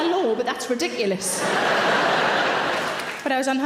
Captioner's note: audience laughing; audience applauding